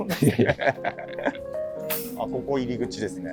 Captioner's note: laughing